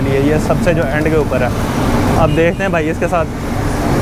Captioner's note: fire